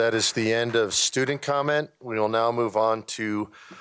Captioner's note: applause